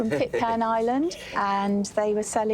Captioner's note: laughs